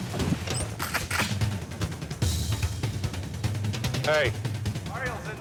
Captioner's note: intense music; gun pump clacking